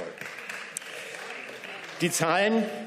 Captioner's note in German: Beifall